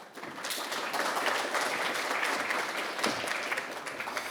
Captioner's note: audience applauding